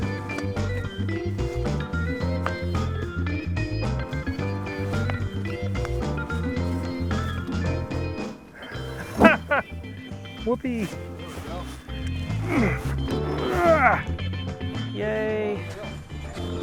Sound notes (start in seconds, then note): 8.6 laughs joyfully; 12.3 grunting loudly